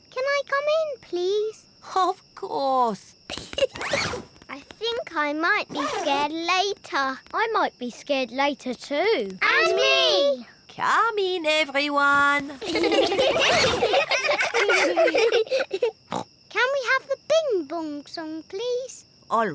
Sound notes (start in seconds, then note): 3.3 giggles; 12.3 all giggling; 15.8 snorts